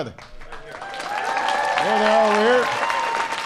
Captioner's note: applause